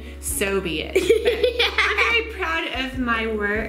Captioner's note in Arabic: يضحك